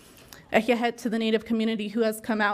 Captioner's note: speaking in foreign language